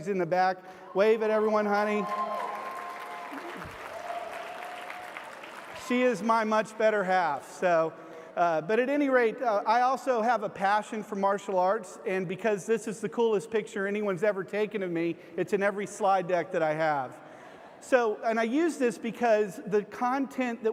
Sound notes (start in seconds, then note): 1.3 audience applause